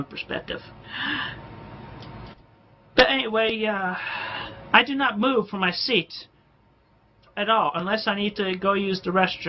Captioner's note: inhales sharply